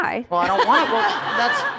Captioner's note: laughter